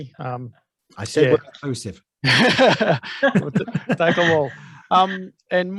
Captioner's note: laughs